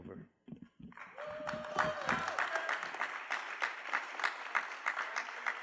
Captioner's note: applause